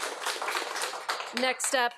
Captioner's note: audience applauding